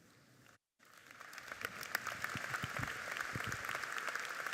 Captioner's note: audience clapping